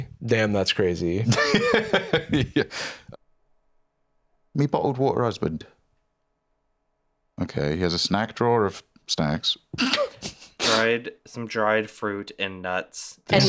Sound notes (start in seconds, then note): 1.3 laughs; 9.8 laughs